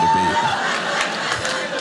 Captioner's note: audience laughing